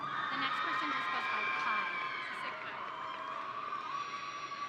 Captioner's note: audience cheering